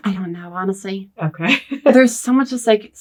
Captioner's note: laughs